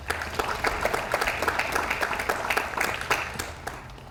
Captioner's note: audience applauds